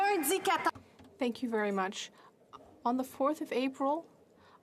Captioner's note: speaking French